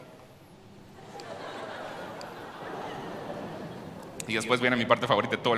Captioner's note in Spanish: Risas